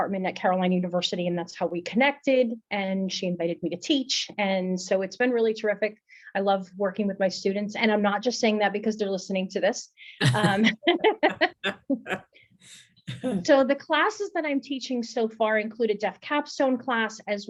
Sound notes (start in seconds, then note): 10.2 both laughing